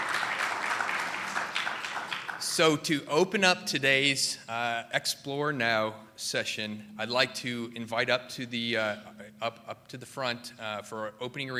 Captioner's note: applause